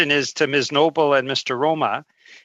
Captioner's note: speaking French